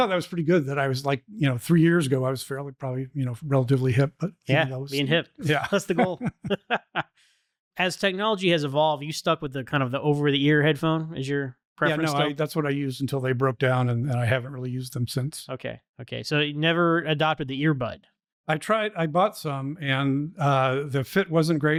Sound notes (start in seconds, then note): 5.4 laughter